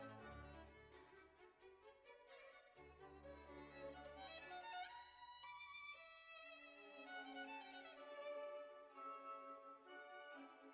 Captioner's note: speaking French